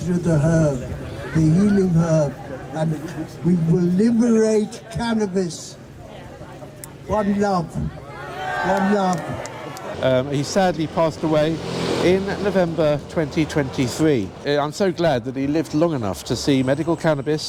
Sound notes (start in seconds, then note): 8.0 crowd